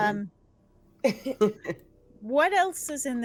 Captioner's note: chuckles